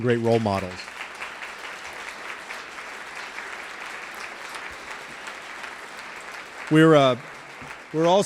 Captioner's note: applause